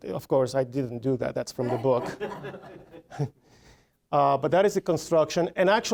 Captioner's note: audience laughing